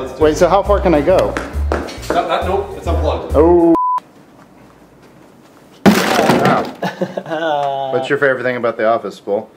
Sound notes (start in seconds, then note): 5.8 clatter of items; 6.7 awkward laugh